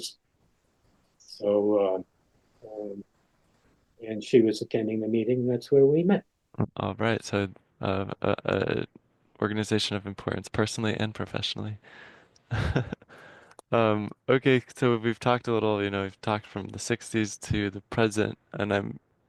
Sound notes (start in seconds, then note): 12.5 laughing